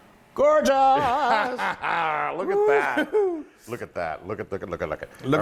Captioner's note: laugh